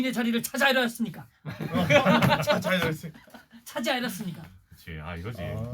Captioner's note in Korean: 웃음